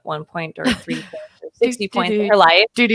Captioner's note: chuckles